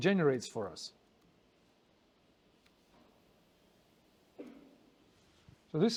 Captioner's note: pause